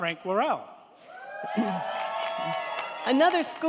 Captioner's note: crowd cheering; crowd clapping